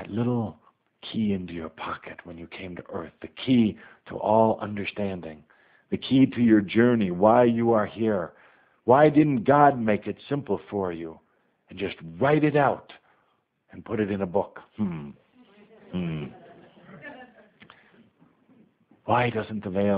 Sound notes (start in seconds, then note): 15.3 some laughter